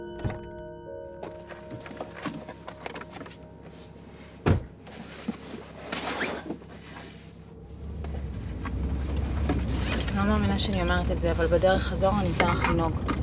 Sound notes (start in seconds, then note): 0.1 car door opens; 4.4 car door closes; 8.4 car engine purring